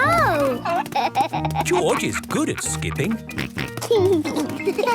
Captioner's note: snort